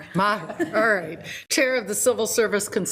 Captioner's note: laughs